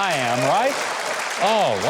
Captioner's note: audience applauds